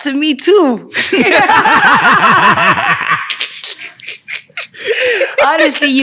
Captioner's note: laughing